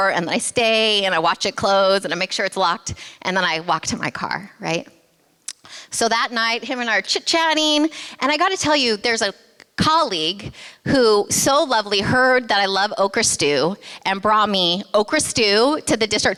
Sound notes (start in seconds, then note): none